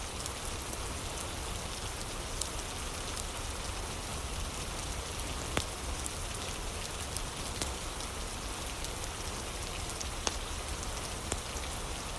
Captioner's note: fire crackling